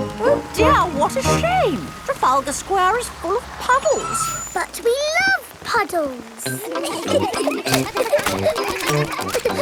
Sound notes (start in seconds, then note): 4.2 tires screeching; 6.4 kids giggling